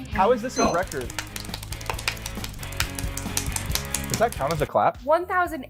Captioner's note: speed clapping